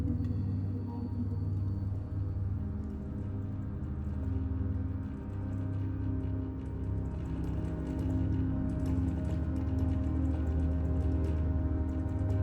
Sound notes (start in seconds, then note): none